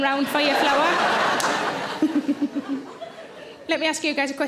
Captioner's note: audience laughing